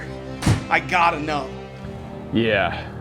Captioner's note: door slams